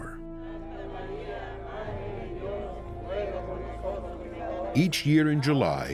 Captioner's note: crowd chanting prayer